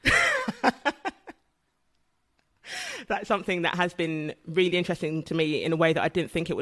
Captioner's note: laughs